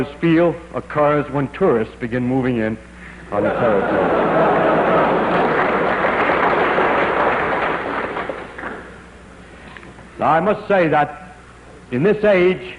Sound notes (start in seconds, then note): 6.8 laughter; 8.5 applause